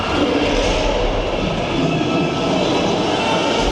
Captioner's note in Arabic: زمجر الديناصورات